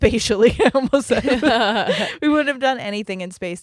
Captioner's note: both laughing